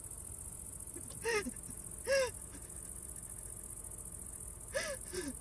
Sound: Sandra hyperventilating

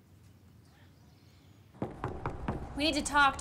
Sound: knocking

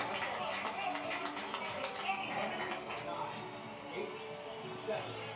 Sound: clapping and cheering

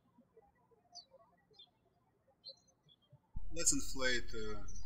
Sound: birds chirping

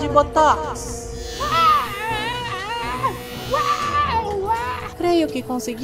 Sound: weird intergalactic noises and screams

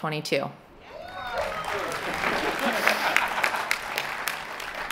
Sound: applause

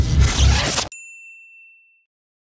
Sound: ping

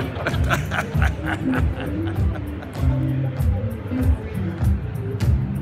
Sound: laughter

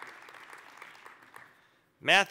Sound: applause

